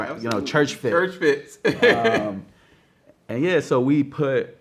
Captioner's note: laughs